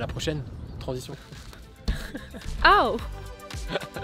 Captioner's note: laughs